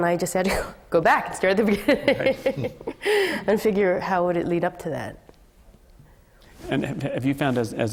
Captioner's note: laughter